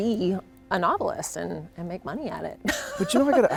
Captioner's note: laughs